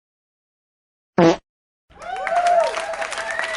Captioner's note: fart then cheering